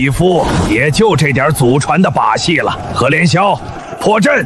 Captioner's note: sound of incense